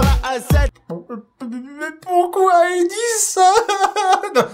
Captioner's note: crying